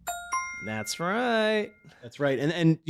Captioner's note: bell dings